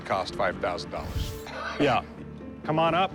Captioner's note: laughs